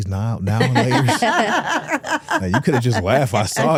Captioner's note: hosts laughing